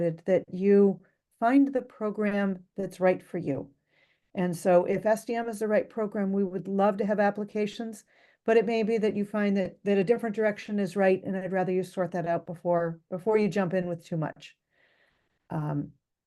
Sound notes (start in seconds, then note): none